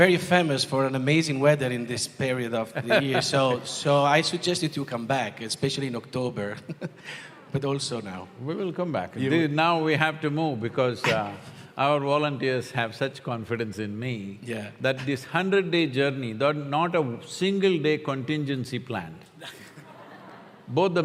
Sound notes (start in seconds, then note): 2.8 laughs; 14.1 both laugh